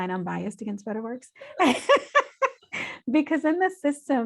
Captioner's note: chuckles